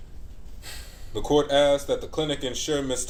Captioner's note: huffs